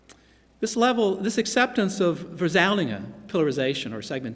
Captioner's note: non-english speech